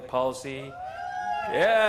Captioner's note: audience cheering